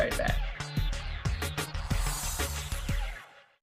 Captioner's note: intriguing upbeat music; air whooshing